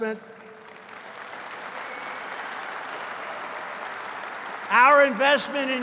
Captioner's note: applause